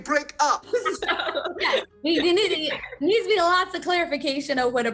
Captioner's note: laughs